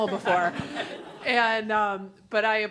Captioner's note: laughter